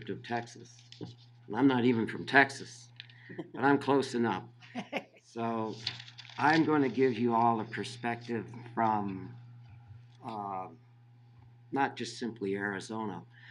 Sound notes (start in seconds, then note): 4.7 laughing